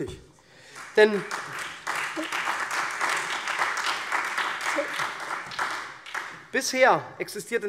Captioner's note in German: Beifall SPD und Freie Demokraten